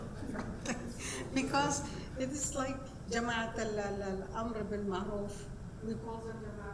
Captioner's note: speaking foreign language